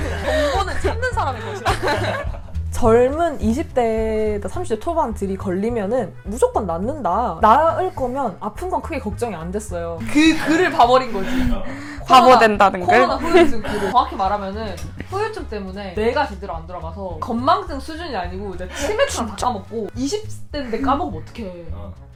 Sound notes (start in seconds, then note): 10.0 laughs